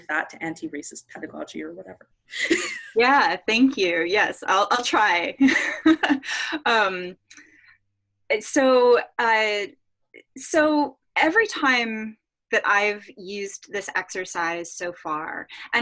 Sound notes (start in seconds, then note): 5.3 laughs